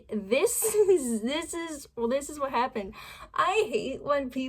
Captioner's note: giggling